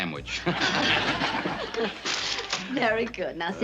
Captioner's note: laughter